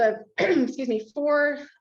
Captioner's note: clears throat